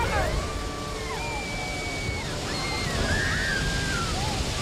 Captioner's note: passengers screaming